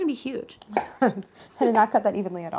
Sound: laughter

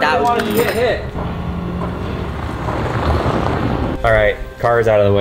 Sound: car engine revving

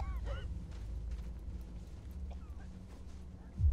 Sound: woman continues coughing

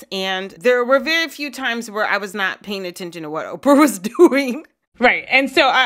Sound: laughter

